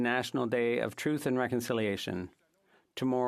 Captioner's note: speaking French